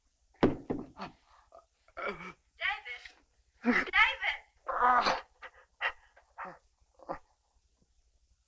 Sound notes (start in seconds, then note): 0.4 phone thuds; 4.6 David groaning